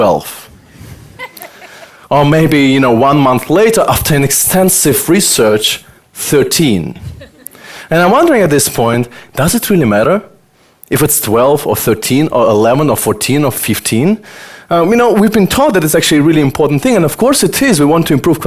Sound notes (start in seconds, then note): 1.2 audience laughter; 7.1 audience laughter